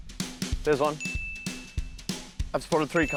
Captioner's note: ding!